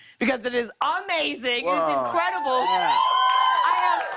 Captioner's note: cheers and applause